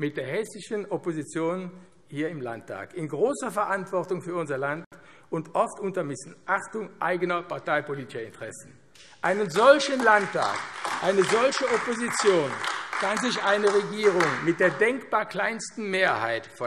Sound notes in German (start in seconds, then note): 9.2 Beifall AfD